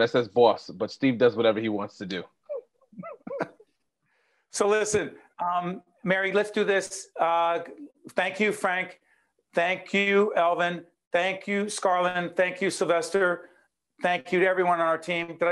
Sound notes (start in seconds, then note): 2.5 laughing